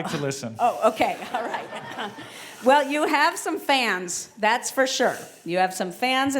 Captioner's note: laugh